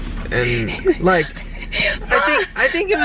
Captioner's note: laughing